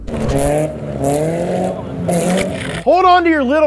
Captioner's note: engine running